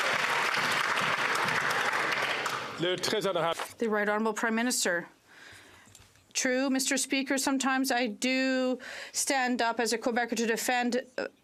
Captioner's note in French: applaudissements